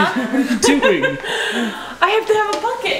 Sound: laughter

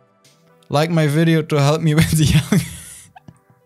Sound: laughs

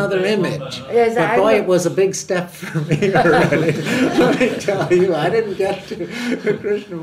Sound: laughs

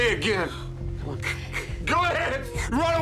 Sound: wheezes

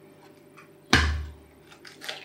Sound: smash

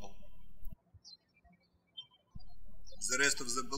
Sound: birds chirping

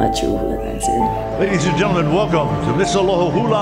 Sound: voiceover

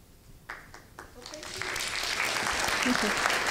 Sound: applause

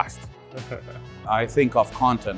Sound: laughs

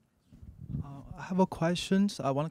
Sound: voiceover

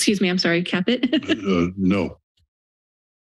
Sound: chuckles

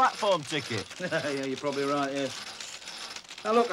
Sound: chuckles

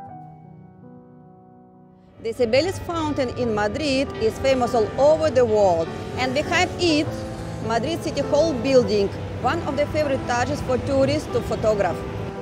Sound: street Noise

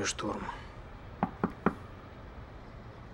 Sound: knocking

